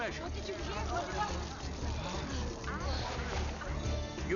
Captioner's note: crowd mutters